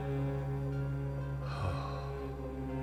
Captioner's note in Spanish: Oscar suspira